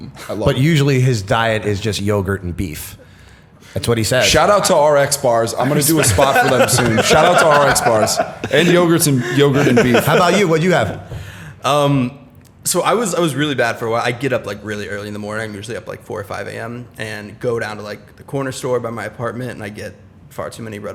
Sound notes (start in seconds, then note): 6.0 chuckle